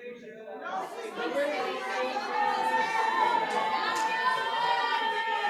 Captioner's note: shouting